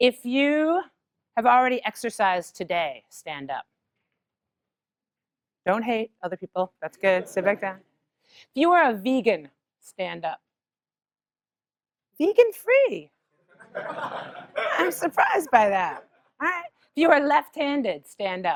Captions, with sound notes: If you have already exercised today, stand up. Don't hate other people. That's good. [LAUGH] Sit back down. If you are a vegan, stand up. Vegan-free. [LAUGH] I'm surprised by that. All right. You are left-handed, stand up.